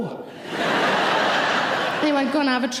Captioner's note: audience laughing